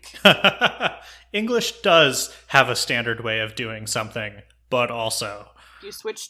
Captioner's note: laughs